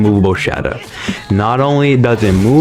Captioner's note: inhales Oxygen